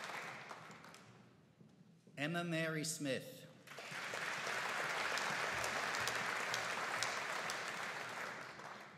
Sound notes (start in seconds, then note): 3.6 audience applauding